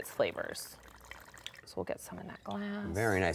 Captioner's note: wine pouring